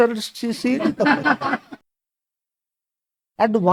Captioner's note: laughs